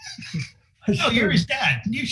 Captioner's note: laughing